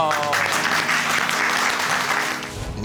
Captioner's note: audience applauding